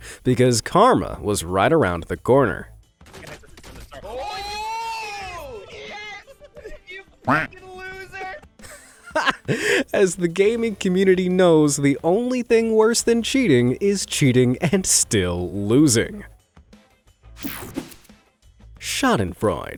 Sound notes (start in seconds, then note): 7.2 duck quacks